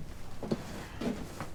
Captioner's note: footsteps approaching